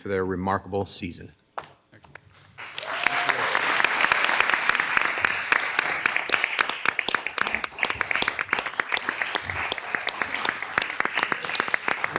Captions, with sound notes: for their remarkable season. (crowd clapping)